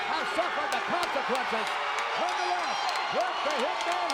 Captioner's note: audience applauds and cheers